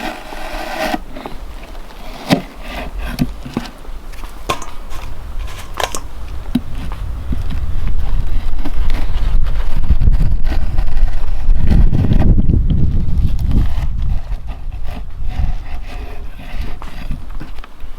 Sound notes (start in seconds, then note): 7.7 wind whistling